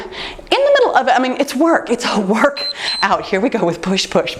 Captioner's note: timer beeps